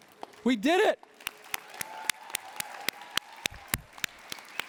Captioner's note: cheering and applause